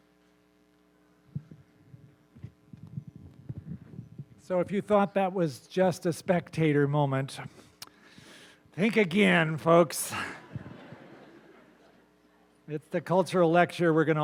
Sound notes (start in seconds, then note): 10.1 laughter